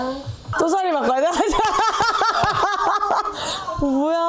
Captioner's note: laughing